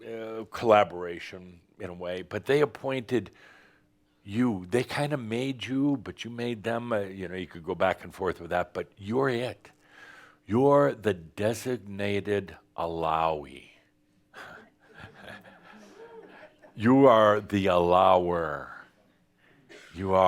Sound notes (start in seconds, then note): 14.4 some chuckles